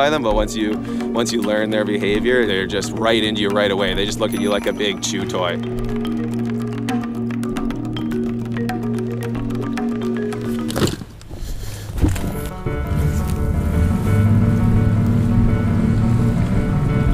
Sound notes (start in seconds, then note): 6.5 lively xylophone music; 11.7 engine starting; 12.2 piano music; 14.1 engine purring